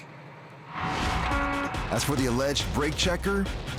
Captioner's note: horn honking